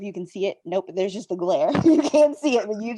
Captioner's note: laughing